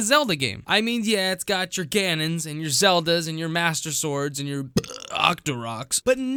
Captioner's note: burp